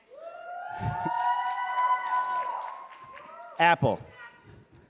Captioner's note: audience cheering